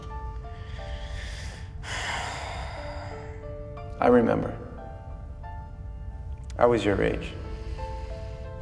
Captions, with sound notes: (Adam sighing) I remember, I was your age,